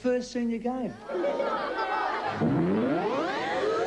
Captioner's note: kids jeering